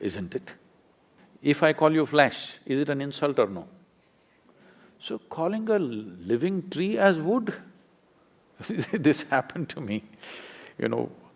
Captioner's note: laughs